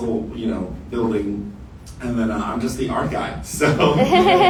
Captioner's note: audience laughter